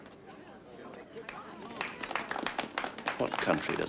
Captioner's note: audience applauding